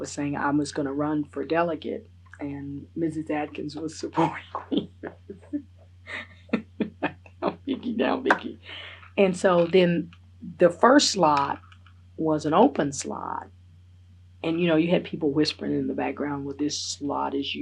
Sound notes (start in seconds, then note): 7.4 laughs